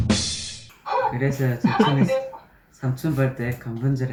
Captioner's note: burst into laughter 95 + moderation 5